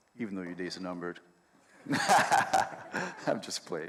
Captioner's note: laughs